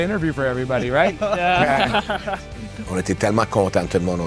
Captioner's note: laughs